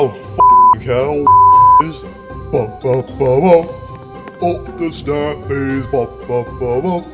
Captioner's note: chants